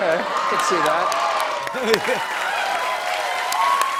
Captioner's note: cheers and applause